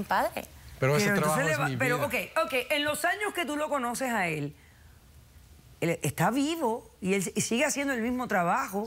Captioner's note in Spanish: Hablan al unísono